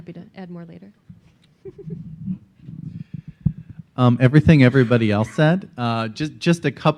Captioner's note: laughs